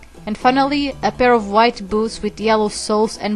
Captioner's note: none